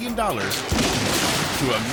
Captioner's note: yacht crumbling